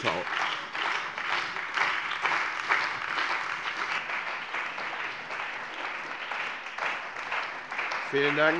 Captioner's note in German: Beifall bei der CDU und dem BÜNDNIS 90/DIE GRÜNEN